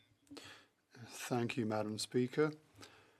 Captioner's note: speaking French